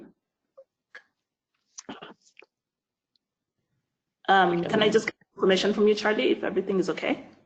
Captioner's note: audio cuts out